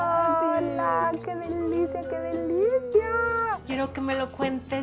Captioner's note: speaking Spanish